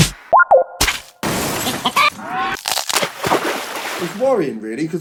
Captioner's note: playful animated boinks